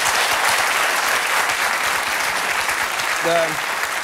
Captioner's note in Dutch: applaus